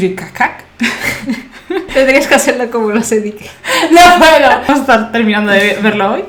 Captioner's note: they laugh